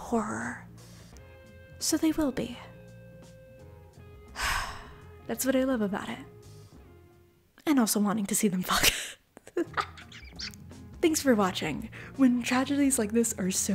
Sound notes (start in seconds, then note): 4.3 sigh; 9.5 laugh